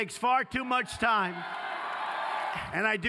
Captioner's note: cheers